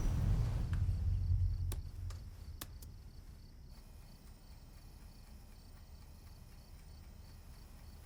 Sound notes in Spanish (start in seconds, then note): 2.6 tictac del reloj